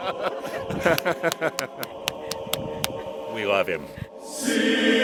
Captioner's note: laughter